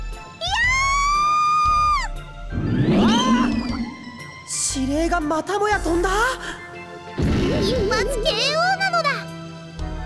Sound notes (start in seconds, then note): 0.4 panicked scream